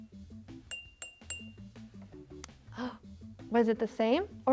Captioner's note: jar tinking